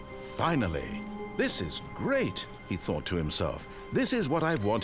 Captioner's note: none